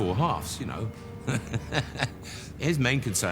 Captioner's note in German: lacht